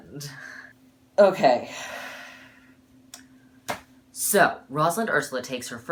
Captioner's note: deep breath